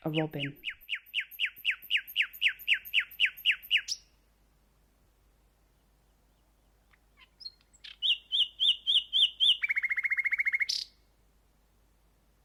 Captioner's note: bird songs